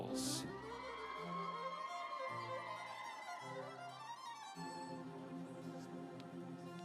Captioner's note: instrumental music; audience cheering